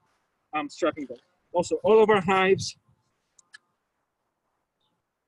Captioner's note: wind rustling